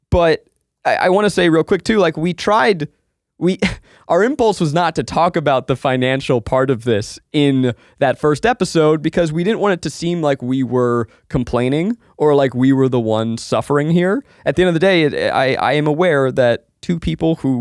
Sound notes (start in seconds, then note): 3.6 chuckles